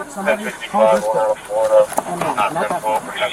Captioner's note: radio chatter